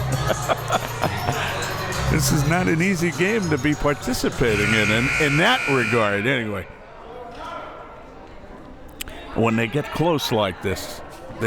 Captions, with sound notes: (both laughs) This is not an easy game to be participating in, (buzzer) and in that regard anyway. When they get close like this,